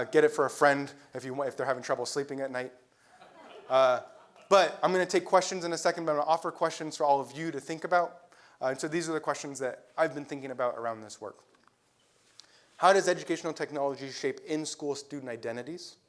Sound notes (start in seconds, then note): 3.2 laugh